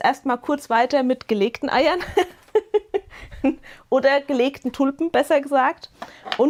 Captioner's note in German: gelächter